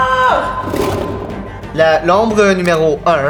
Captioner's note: roar